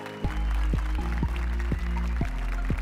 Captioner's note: applause and cheers